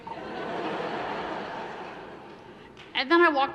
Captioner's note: laughing